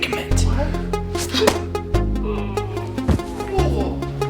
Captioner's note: object smacks; musician groans; Mitch grunts